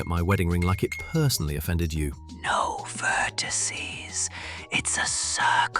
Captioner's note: whispering